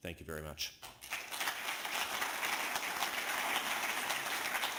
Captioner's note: applause